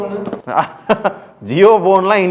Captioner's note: laughs